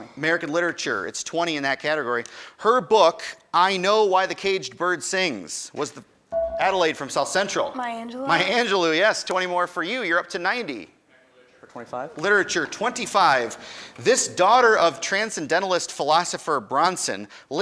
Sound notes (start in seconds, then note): 6.4 buzzer dings